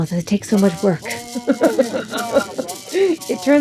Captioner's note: laughing